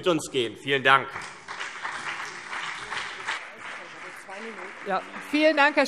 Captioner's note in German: Beifall CDU und BÜNDNIS 90/DIE GRÜNEN